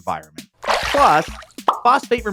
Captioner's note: water splashes